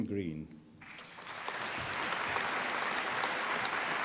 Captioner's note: applause